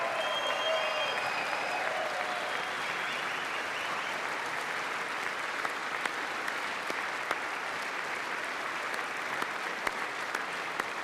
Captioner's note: applause